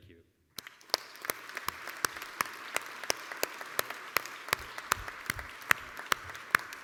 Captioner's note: applause